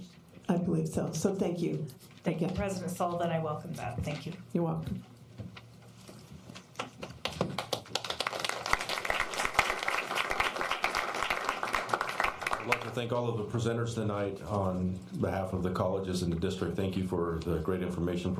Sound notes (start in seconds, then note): 10.0 applause